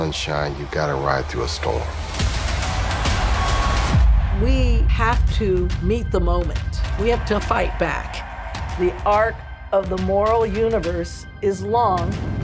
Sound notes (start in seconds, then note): 1.8 crowd yelling; 1.8 dramatic music plays